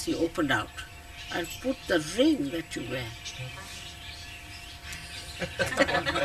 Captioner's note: laughter